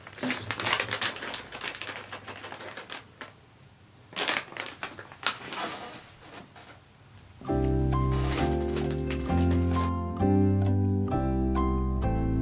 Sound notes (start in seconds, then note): 1.6 bag crinkling